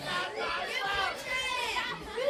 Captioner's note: crowd chatter